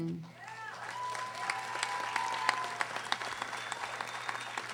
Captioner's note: audience applauding